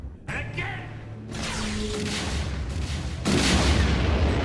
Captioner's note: laser blasts; explosion rumbles